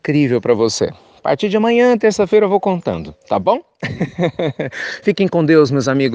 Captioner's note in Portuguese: risos